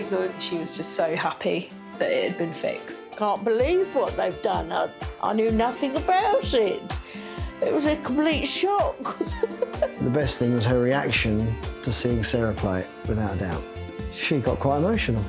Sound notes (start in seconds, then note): 9.0 laughs